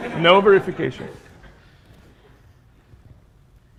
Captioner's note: laughter